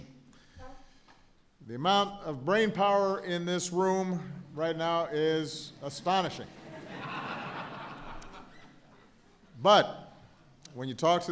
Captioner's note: laughter